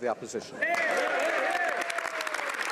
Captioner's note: speaking French